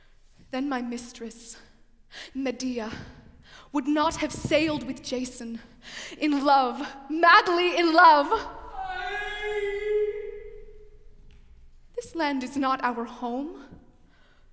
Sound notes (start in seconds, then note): 8.7 moans offstage